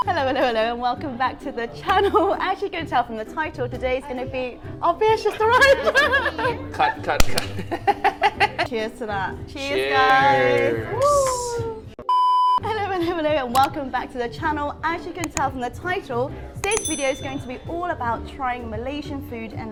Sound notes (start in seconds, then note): 5.2 laughs; 8.2 laughs